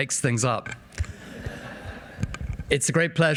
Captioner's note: audience laughing